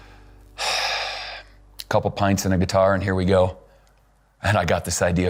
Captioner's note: sighs